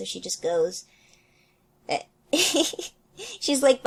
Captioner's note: laughs